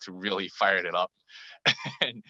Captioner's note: laugh